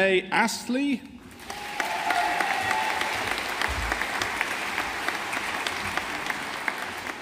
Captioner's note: audience applauding